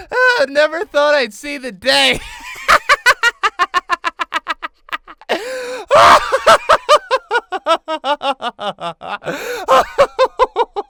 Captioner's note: hysterical laughter